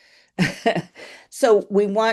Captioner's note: chuckles